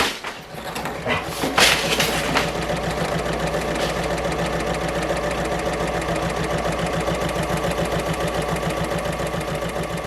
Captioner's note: sewing Machine Sounds